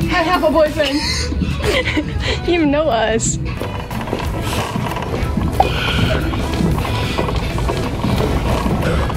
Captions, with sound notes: - I have a boyfriend! (laughing) - You know us! (cart rattling)